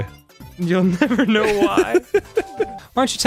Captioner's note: laughs